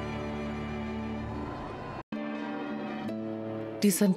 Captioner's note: audience applauding; gentle music